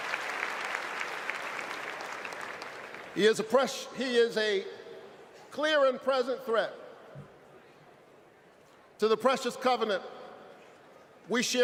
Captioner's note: applause